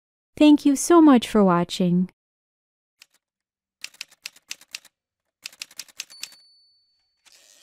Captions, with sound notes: Thank you so much for watching! [Typewriter sounds]